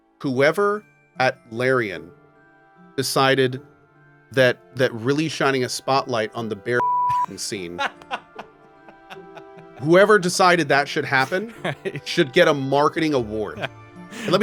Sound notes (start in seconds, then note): 6.8 beep; 7.0 laughs